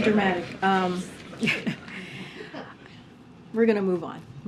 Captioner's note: laughter